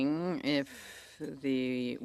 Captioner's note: speaking French